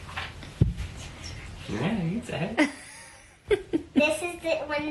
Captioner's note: laughs